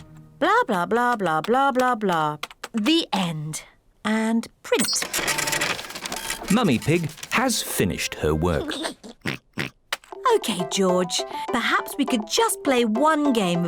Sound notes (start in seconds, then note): 8.6 giggles and oinks